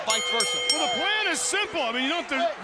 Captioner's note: bell ringing